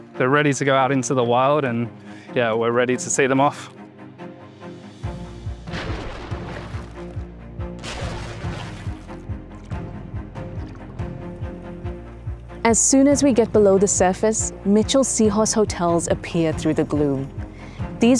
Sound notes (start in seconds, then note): 4.2 bright music; 5.9 water splashes